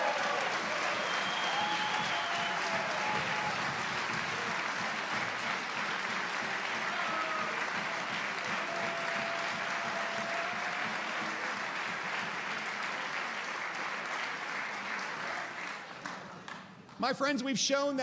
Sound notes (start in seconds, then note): 4.3 applause